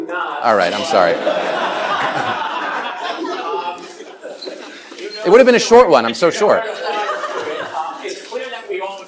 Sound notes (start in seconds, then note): 0.7 laughter